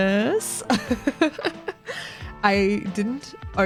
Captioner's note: laugh